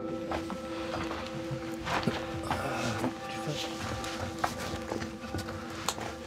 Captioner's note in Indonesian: suara langkah kaki